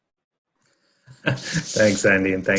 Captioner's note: laughing